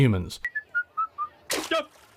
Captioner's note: whistling